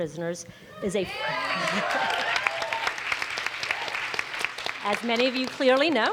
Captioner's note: audience cheers; audience applauds